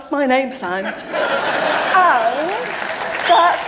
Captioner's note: applause